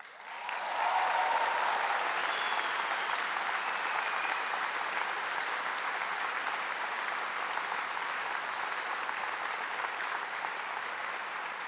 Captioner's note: applause